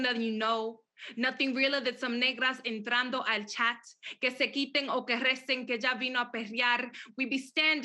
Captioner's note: speaks Spanish